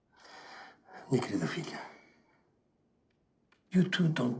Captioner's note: speaking in Portuguese